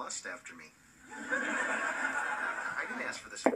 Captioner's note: canned generic laughter